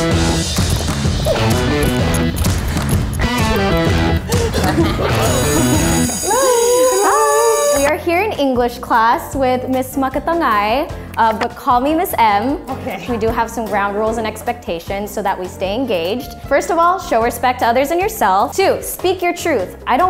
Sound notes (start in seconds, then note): 0.0 upbeat music; 6.9 bell ringing